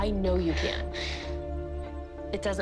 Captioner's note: sniffling